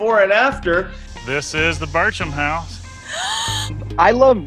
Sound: woman sighs

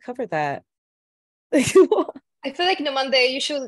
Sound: laughing

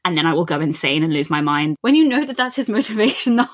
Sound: laughs

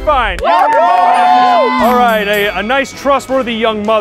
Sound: cheering

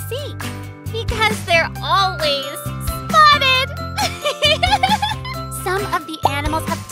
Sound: laughs

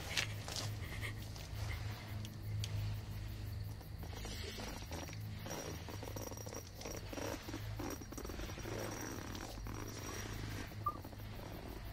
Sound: heavy Monstrous Breathing

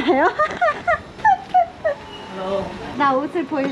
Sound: excited steps

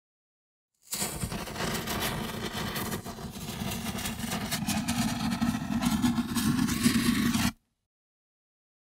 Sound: lit fuse sound effect

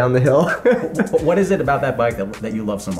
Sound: laughs

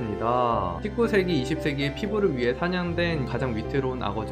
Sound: voiceover

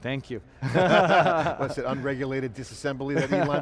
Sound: laughter

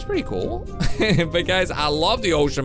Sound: chuckles

